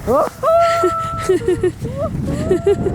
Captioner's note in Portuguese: gritando; rindo